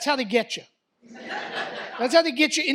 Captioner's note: audience laughs